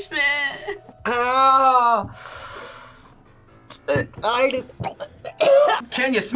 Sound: winces; laughs; both gag; gags

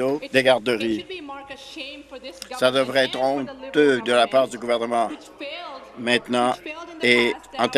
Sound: applause

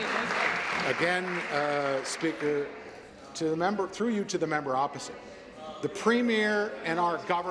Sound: applause

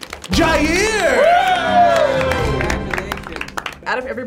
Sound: group cheers

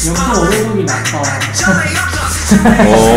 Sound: haha

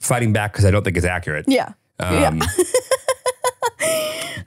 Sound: laughs

